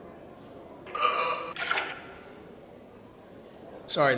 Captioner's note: sound effect of man vomiting into toilet